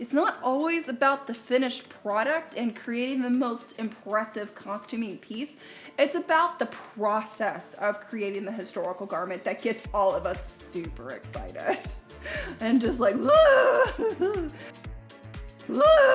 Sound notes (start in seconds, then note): 13.2 laughs; 14.8 groans